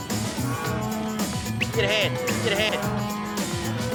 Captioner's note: mooing; whistles; mooing